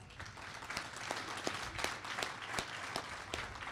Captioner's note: applause